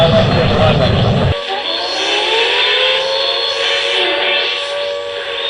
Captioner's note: air raid sirens